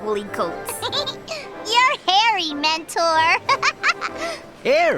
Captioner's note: laughing